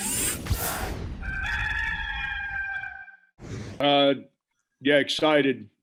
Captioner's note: air whooshing; rooster crowing